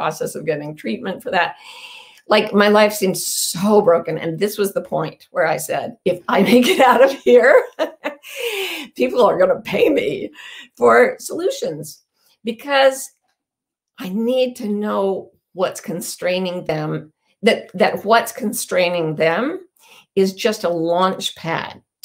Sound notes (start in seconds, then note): 6.7 laughing